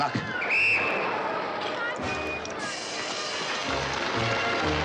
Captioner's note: whistle shrills; audience applauds